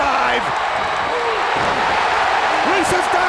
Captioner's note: crowd cheers